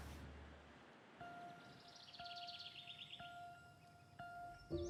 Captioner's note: birds chirping